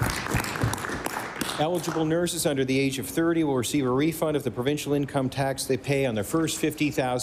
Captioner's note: applause